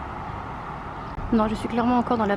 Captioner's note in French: Son des petits oiseaux